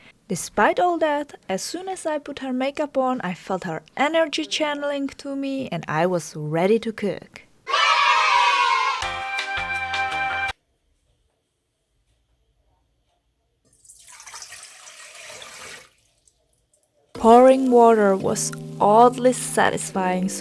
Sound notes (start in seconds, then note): 13.7 pouring water; 17.1 chill music